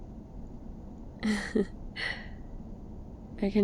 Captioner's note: laughs